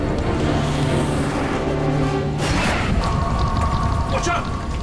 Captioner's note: plane engine roars